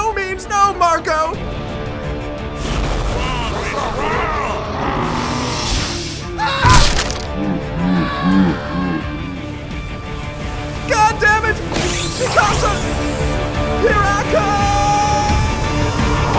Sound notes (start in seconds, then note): 6.6 crunch